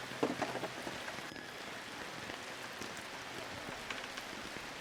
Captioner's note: cart rattling